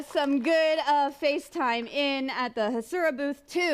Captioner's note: applause